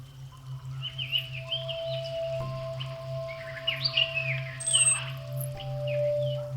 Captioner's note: bird chirping